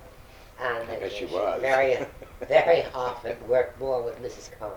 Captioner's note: laughs